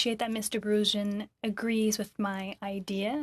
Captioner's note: speaking French